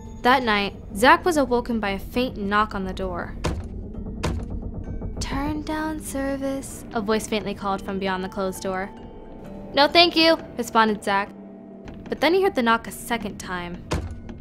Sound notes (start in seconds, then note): 2.2 knocking; 13.7 knocking